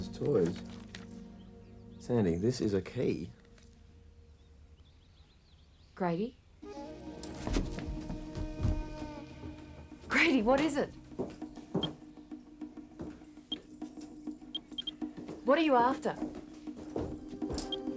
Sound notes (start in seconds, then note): 6.6 dramatic music; 12.2 geiger counter beeps